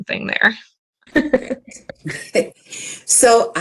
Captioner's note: laughter